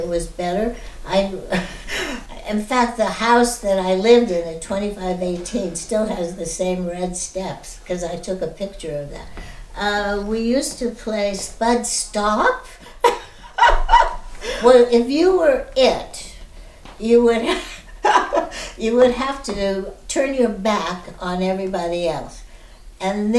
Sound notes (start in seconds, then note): 13.0 laughter; 17.5 laughing